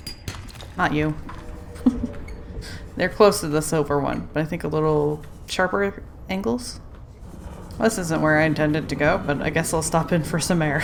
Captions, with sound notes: Not you *laughs* They're close to the silver one but I think a little sharper angles? This isn't where I intended to go but I guess I'll stop in for some air.